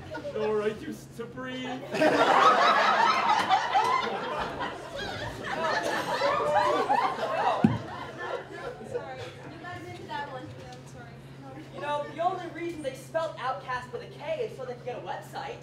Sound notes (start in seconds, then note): 1.8 laughter